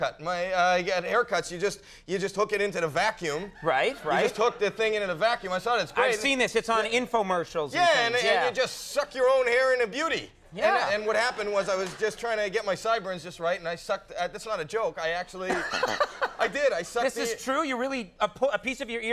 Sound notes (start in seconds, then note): 15.5 Conan chuckling